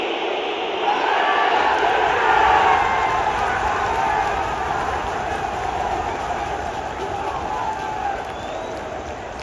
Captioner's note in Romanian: Aplauze